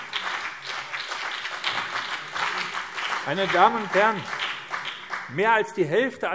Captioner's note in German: Beifall BÜNDNIS 90/DIE GRÜNEN und CDU